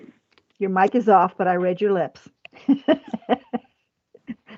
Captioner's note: laughs